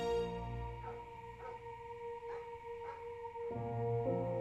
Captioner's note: dog barking in distance; light melodic orchestral music